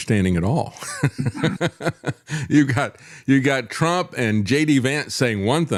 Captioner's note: laughs